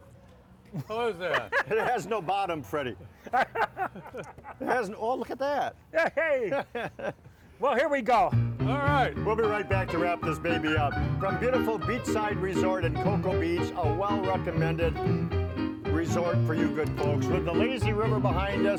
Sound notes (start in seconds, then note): 0.7 laughter; 7.7 upbeat piano